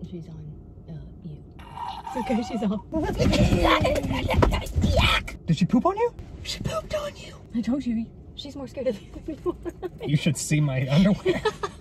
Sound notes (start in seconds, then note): 1.6 screaming; 3.3 rustling; 3.3 screaming